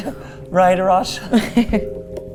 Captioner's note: tense music; laughing